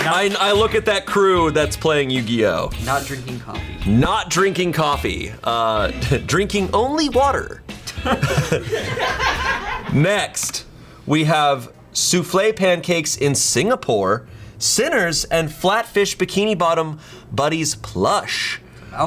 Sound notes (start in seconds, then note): 7.8 colleagues laughing